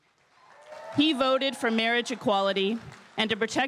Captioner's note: crowd cheering and applauding